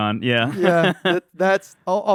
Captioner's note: laughs